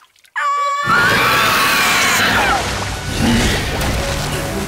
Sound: screaming; roaring

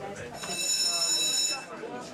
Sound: bell

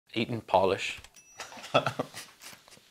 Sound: laughs

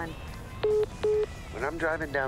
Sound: phone message beeping

